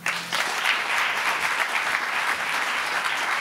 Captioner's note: applauding